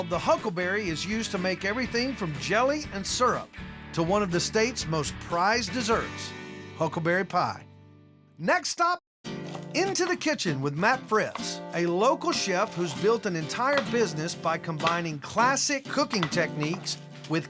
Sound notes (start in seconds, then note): none